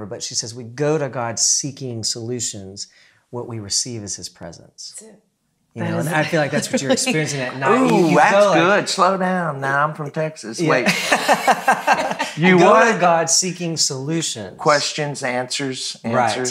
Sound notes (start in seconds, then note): 10.7 laughing